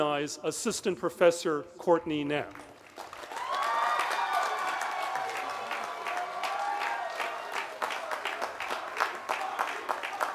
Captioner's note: cheering